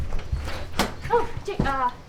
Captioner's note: door opens